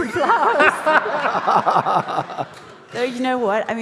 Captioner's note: audience laughing